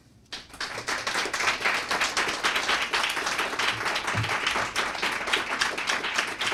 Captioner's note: applause